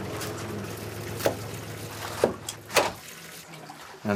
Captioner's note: knives thudding